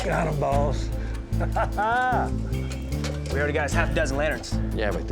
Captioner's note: laughing